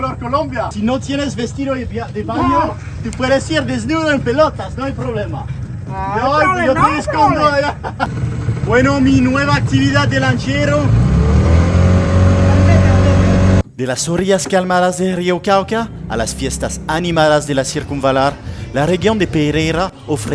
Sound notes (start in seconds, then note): 6.1 laughs